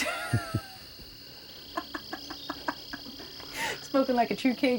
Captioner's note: both laugh